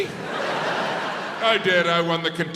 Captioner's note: crowd laughs